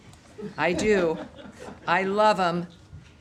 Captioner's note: laughter